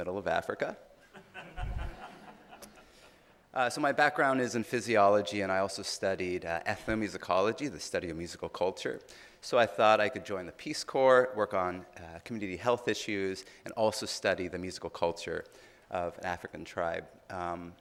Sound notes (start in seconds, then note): 1.1 audience laughing